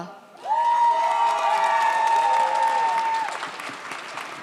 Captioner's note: audience cheers